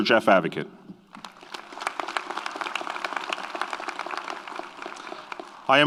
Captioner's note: audience applauds